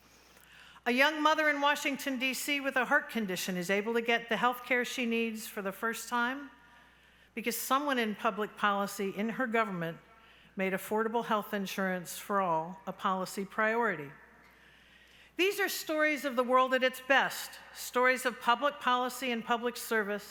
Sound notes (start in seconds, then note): none